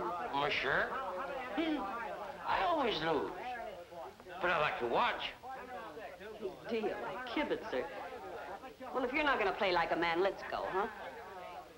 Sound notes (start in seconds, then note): 1.6 woman sniggering